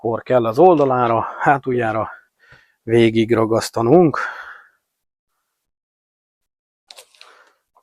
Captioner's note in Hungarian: sóhajtás